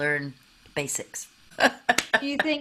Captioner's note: laughing